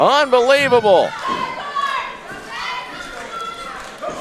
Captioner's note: audience yelling